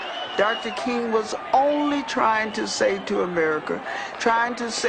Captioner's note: female voice